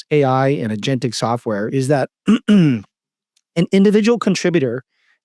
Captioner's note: clears throat